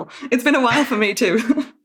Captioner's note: laughs